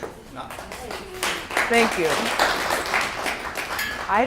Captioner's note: group clapping